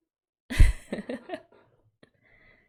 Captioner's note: laughs